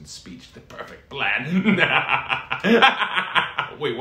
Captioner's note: laughs evilly